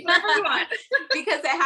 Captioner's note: both laughing